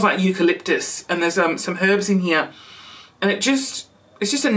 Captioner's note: sniffs